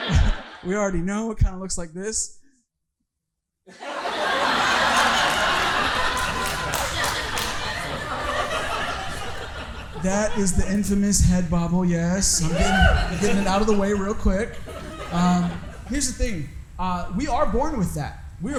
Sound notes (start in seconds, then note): 3.7 audience laughing